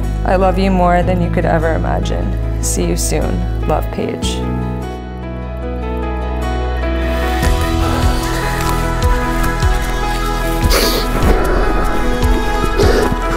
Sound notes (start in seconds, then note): 7.4 gasps; 8.0 crying